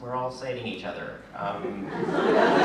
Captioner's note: laughter